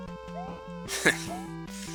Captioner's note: laughs